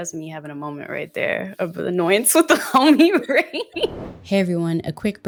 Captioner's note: laughs